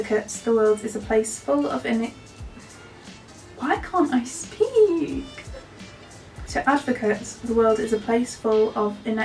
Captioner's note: stutters